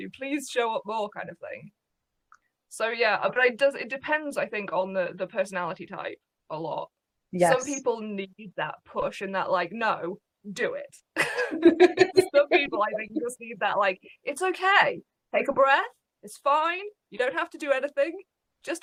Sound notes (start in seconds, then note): 11.2 laughs